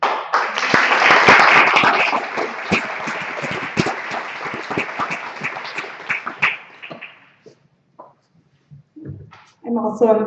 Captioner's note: applause